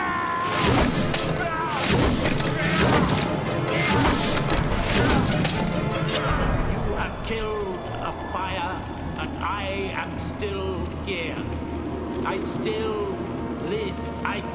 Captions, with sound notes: - (yelling) (wooden thuds) (snick) - You have killed a fire and I am still here. I still live.